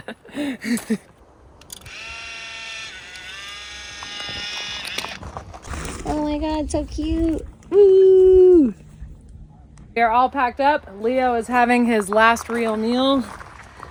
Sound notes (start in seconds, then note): 1.6 camera clicks and whirs